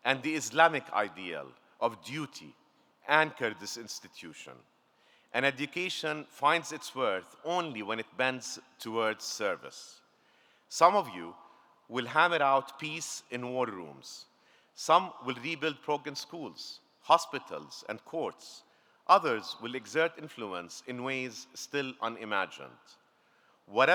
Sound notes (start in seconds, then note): none